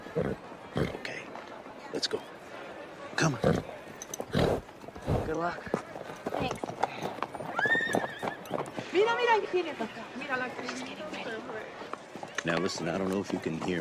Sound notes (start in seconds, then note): 7.5 neighs; 8.4 speaking spanish